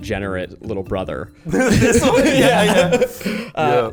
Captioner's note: people laughing